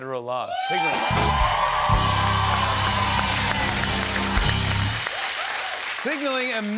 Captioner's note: cheers and applause